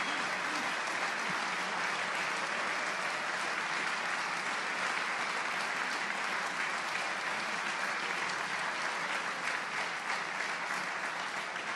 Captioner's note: applause